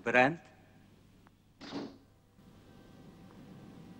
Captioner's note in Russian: хлопает дверь